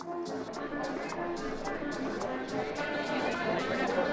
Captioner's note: crowd talking in background